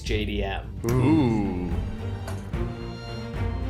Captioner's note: all exclaims; soft instrumental music